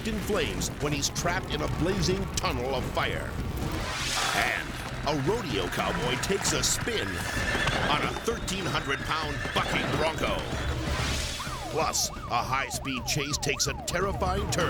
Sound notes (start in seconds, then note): 7.1 horse neighs; 14.5 police sirens blaring